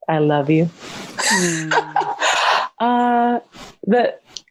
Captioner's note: laughs